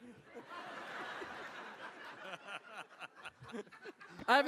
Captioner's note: laughing